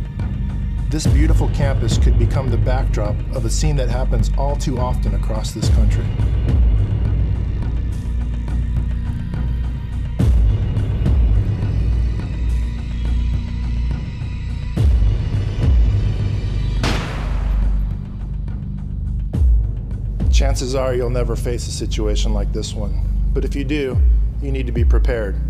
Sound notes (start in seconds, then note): 16.8 gunshot